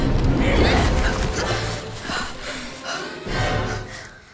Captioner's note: grunt